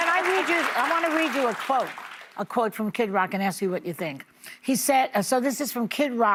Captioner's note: applause